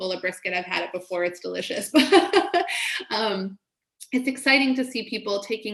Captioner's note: laughs